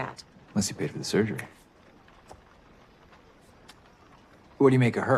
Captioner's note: snaps fingers